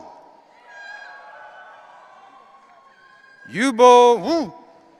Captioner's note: audience cheering